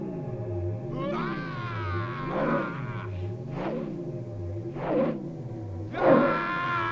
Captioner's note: flail whooshing; Gordoza roaring